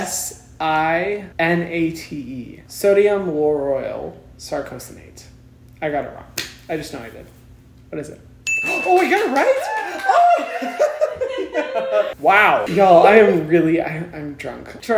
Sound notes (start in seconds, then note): 8.4 ding; 9.0 laughing and cheering